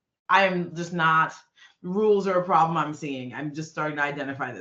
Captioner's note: none